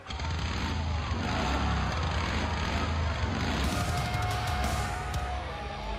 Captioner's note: motorcycle revving